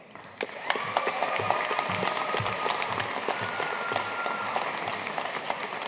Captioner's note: audience cheering and applauding